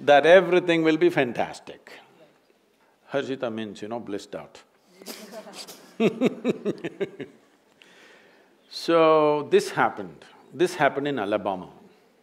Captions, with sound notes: that everything will be fantastic. “Harshita” means, you know, blissed out (Laughter). So this happened... this happened in Alabama.